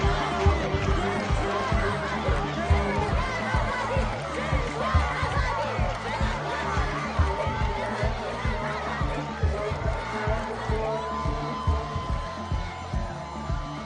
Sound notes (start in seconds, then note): 0.0 soundbite of protest